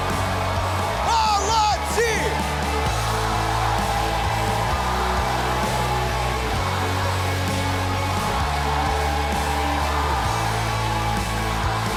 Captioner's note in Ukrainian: оплески